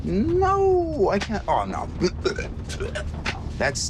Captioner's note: retches